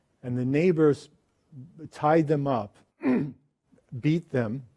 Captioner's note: clears throat